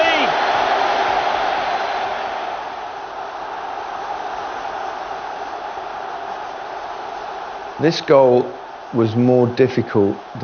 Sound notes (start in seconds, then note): 4.1 crowd cheering